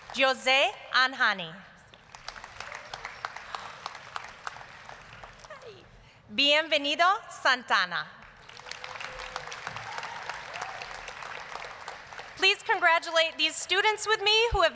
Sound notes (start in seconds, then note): 0.0 applause; 1.8 applause; 8.2 applause, cheering